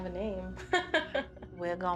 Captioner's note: laughs